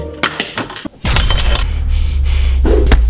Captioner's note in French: Bruit de cuillère qui tombe